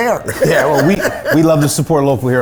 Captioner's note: laughs